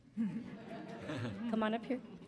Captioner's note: laughter